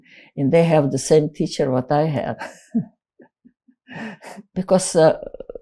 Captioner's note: laughing